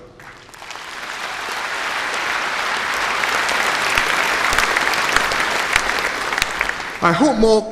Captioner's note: applause